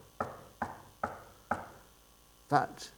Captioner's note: knocking